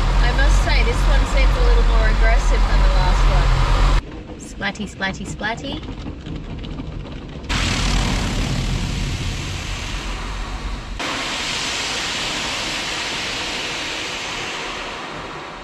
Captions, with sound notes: I must say, this one seems a little more agressive than the last one. Splatty, splatty, splatty. [liquid loudly splats onto windscreen] [loud water is loud]